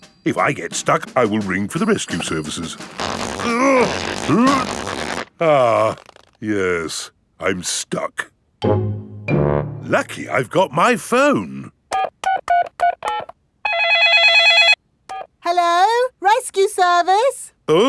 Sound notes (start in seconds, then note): 3.4 grunting; 11.9 dialing; 13.6 cell phone ringing